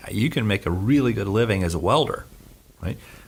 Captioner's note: none